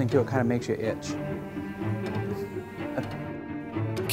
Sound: chuckles

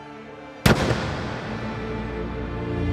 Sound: gunshot

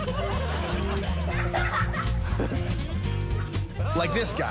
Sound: laughs

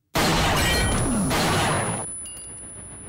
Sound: gunshot

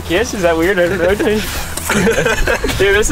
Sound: laughing

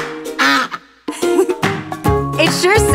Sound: duck quacks

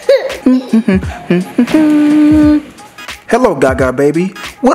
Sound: laughs; humming

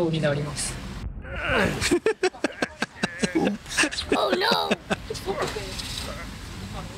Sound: laughter

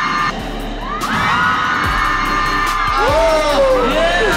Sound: screaming

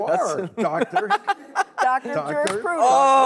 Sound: laughter

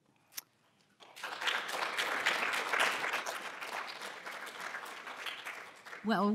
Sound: applause

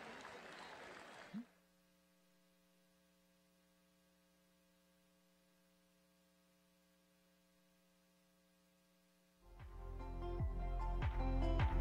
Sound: cheering

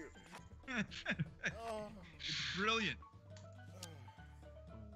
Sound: laugh

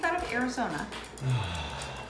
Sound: exhale

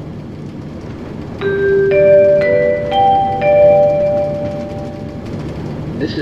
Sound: chime

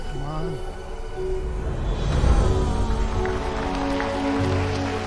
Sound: crowd groans

